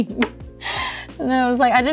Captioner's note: laughs